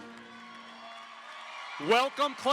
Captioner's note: audience applauds; audience cheers